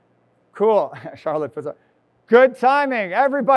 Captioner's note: chuckles